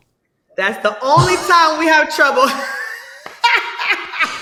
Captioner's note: laughing